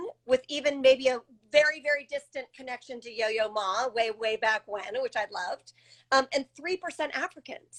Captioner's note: none